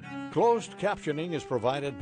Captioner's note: voiceover